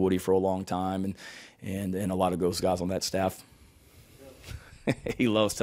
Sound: laughing

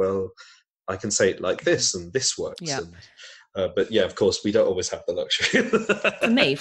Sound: laughs

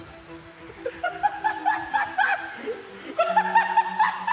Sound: Ethan laughing

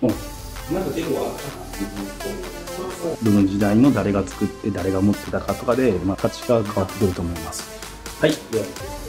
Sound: staff speaks in japanese

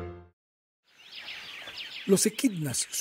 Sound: birds chirping

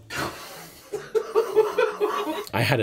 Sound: audience laughing

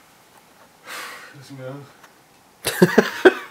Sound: sigh

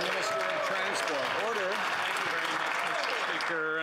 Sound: applause

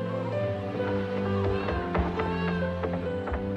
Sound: footsteps on stairs

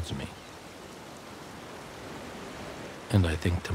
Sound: waves crashing

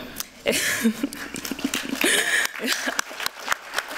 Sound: applause

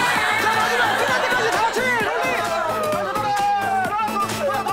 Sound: excited kids

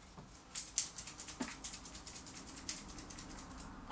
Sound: light rattling

